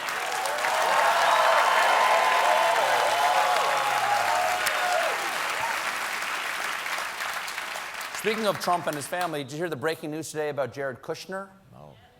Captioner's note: applause